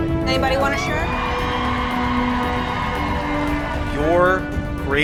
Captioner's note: crowd cheers and screams